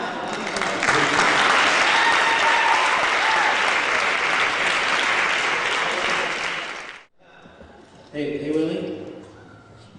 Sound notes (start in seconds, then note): 0.1 applause